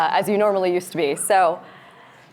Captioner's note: none